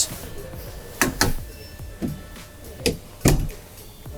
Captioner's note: clicking